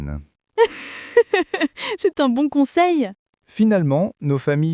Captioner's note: laughs